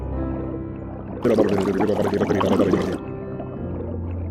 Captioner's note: more gurgling